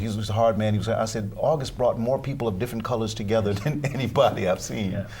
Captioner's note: laughter